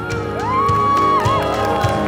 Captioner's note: crowd cheers; crowd claps